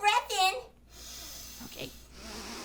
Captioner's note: breathes in